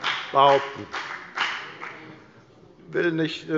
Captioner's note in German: Beifall bei der FDP